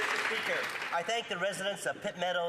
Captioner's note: some Applause